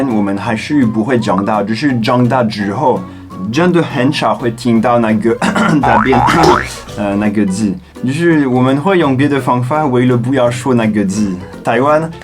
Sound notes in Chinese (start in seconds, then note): 5.4 咳咳